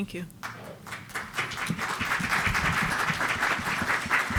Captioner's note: audience applauds